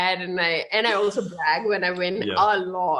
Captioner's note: chuckles